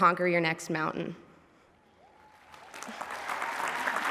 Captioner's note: applause